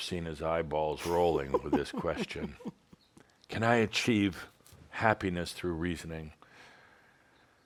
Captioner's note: chuckles